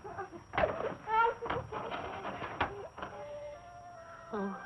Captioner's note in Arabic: بكاء